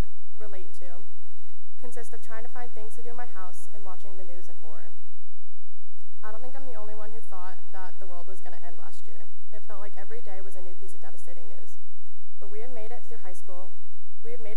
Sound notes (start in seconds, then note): none